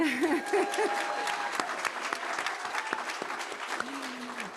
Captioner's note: audience applauding